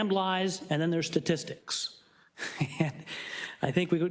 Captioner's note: chuckles